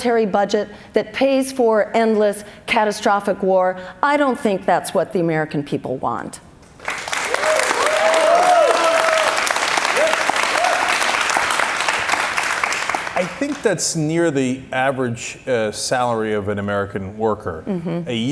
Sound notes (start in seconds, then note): 6.8 cheers and applause